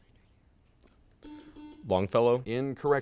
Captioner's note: buzzer sounds